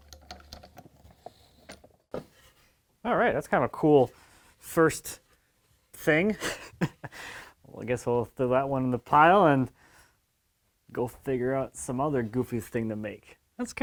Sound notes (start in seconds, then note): 6.3 man laughs